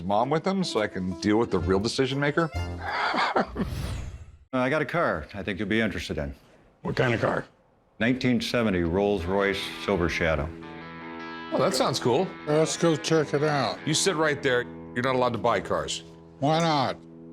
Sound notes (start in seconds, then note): 2.8 laughter